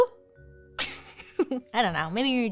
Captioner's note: laughs